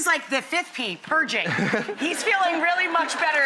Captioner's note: audience laughs